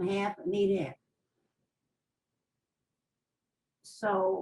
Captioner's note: pauses for 3 seconds